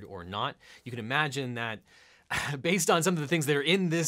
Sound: chuckles

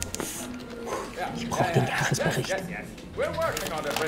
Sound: in German

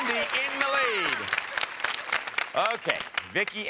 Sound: audience applauds

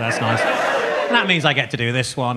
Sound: audience cheering

